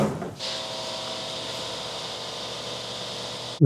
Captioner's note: blender whirring